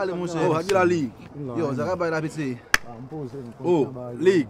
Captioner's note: all talking!!